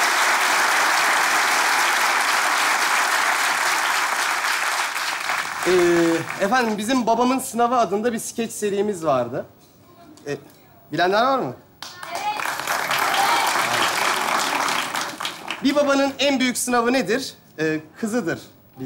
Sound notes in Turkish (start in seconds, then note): 11.8 Alkış sesleri